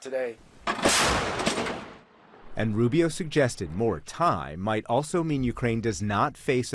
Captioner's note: voice-over